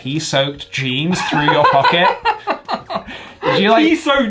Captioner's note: laughs